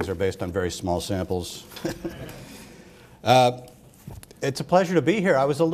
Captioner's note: laughter